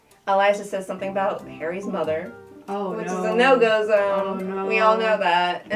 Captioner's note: none